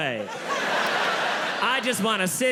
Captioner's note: audience laughing